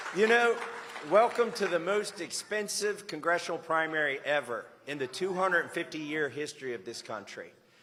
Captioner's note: applause